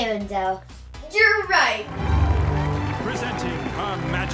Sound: audience applauding

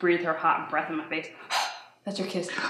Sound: exhales

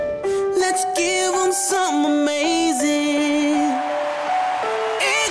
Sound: cheering

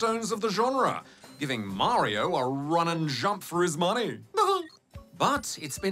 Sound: chuckles

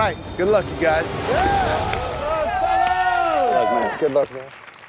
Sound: cheering

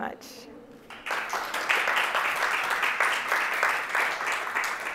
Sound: applause

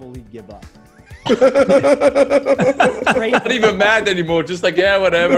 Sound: laugh

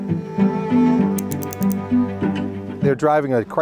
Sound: dramatic music; numbers ticking

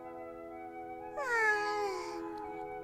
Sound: yawn

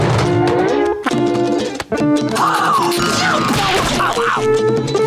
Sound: gasping

